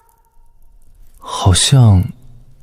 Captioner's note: sigh